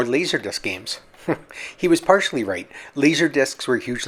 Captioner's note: chuckles